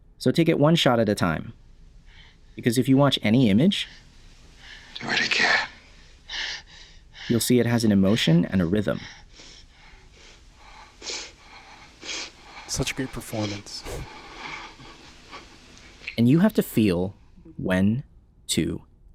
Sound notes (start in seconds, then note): 9.0 breathing heavily